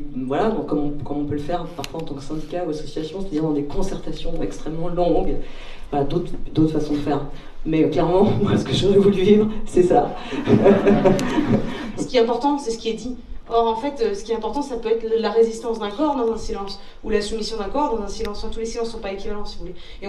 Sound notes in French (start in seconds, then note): 10.3 rires